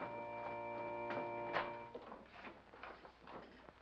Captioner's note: door opens